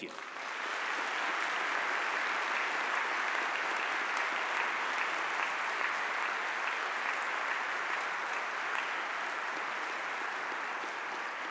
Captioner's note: audience applause